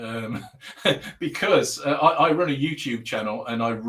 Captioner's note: laughing